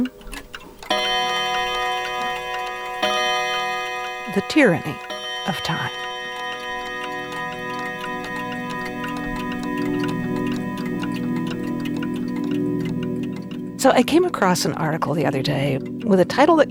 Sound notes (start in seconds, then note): 0.3 clock ticking intensifies; 1.3 electronic bell ringing; 7.1 clock ticking continues; 9.4 airy music